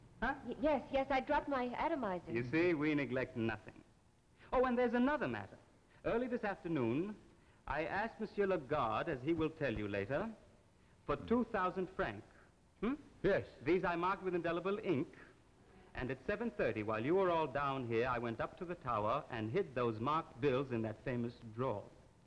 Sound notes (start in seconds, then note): 13.2 Charles' voice